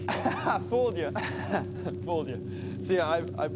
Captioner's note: laughs